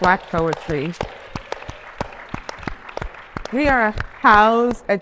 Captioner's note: attendees applauding